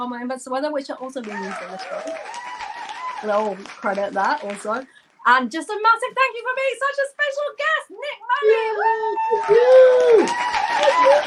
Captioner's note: applause